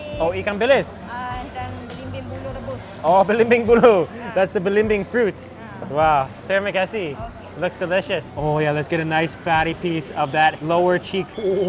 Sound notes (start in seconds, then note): 0.0 chef speaks in a foreign language; 0.4 speaks in foreign language; 1.7 chef speaks in a foreign language; 3.2 speaks in foreign language; 6.2 speaks in foreign language